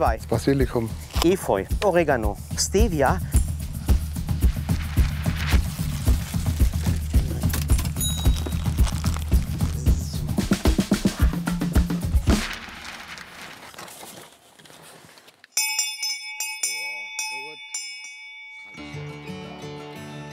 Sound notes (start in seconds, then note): 4.2 Rhythmische Musik; 15.5 Glockenläuten; 18.7 Sanfte Musik